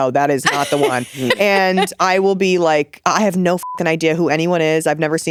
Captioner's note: beep